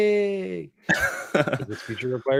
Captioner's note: laughs